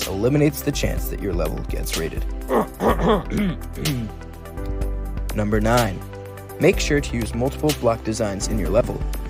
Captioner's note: cough cough